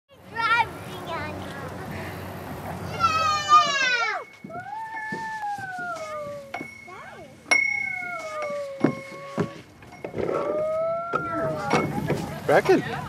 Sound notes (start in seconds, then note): 2.8 children shouting; 7.5 bell ding